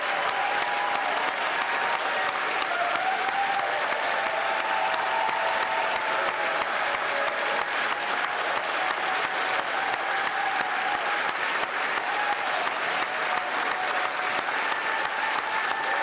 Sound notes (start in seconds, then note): 1.4 cheers & Applause